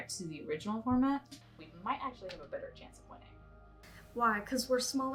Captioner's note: on phone